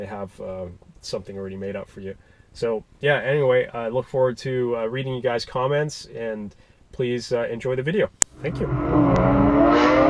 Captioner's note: a car